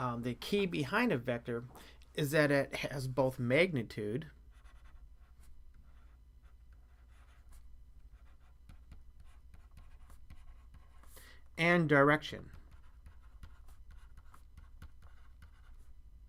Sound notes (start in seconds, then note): 4.2 pause